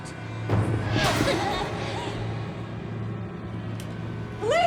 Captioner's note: voices whispering; figure whooshing